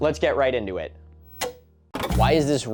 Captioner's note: TV clicking off/on